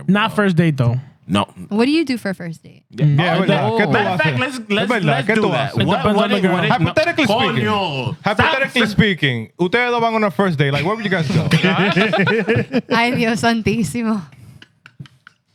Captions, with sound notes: Not first date though. No. What do you do for first date? (Speaking Foreign Language) Happy Terecun speaking. Happy Terecun speaking. (Speaking Foreign Language) Like, where would you guys go? (Laughing) (Speaking Foreign Language)